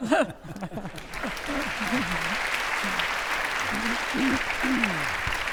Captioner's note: audience laughing; audience applauding